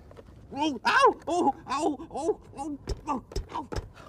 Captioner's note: groans